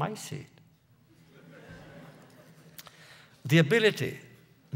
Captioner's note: laughter